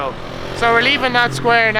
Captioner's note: motorbike revving